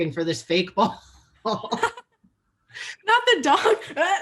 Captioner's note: both laugh